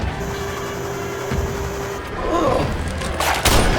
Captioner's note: interface whirring